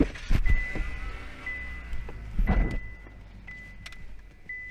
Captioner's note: car engine starting